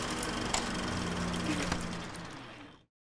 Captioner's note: projector dies